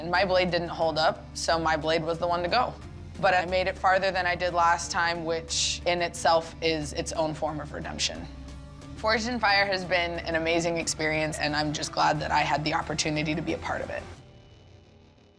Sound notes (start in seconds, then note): none